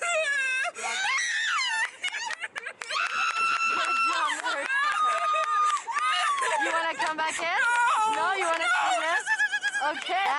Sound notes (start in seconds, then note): 0.0 screaming; 1.4 cheering and clapping from friends